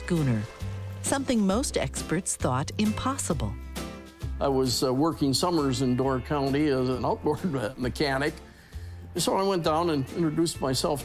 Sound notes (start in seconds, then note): none